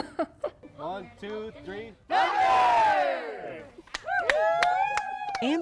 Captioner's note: cheers and applause